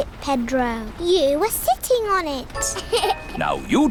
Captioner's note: laughs